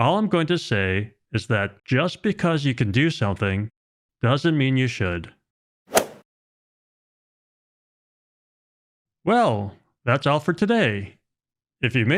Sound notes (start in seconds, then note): 5.9 golf swing sound effect